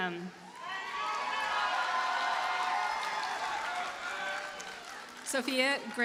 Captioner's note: audience cheers and applauds